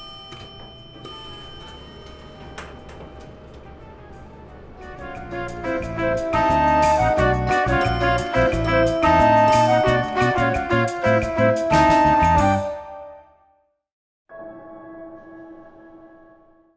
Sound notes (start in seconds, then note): 0.1 elevator dings; 5.2 light brass music; 8.3 elevator dinging